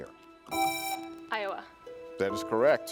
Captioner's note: buzzer rings